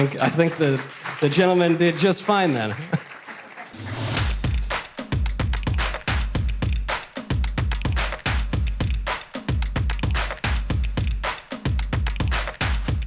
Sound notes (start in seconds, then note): 0.1 audience laughter; 2.9 audience applause